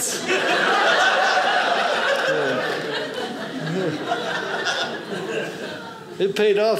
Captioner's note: audience laughing